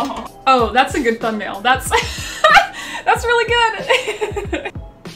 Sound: laughing

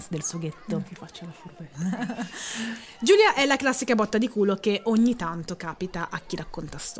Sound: laughing

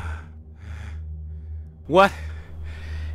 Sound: Mace Windu breathing heavy. Rough day

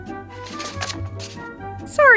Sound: paper rustling

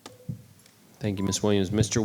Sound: clicking

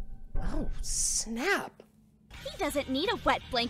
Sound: none

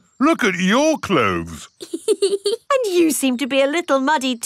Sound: laughs

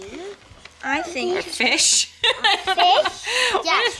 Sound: laughing

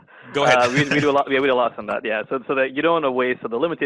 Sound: laughing

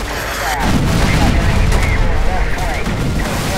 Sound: explosions booming

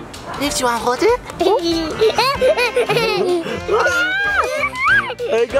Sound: laughs and screams

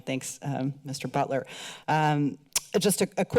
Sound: click tongue

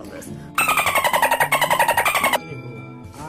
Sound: dolphin noise

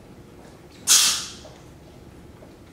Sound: sneezes

